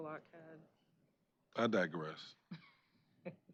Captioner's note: laughter